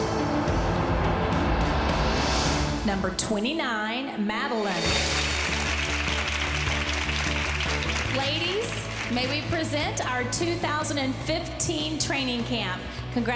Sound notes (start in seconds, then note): 5.0 clapping